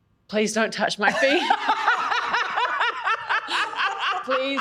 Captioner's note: laughs hysterically